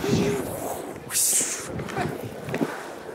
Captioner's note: hissing, laughter